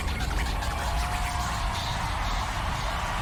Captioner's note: cheering